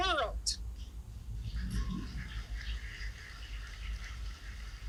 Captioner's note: applause